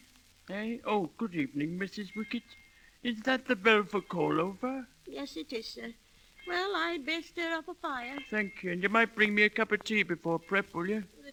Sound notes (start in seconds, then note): none